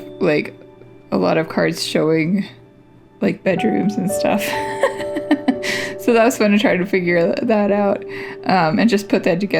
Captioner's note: laugh